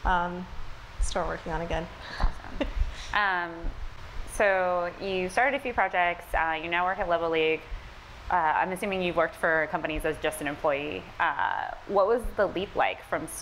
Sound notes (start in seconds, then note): 3.0 laughs